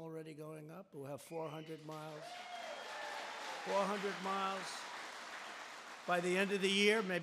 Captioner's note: applause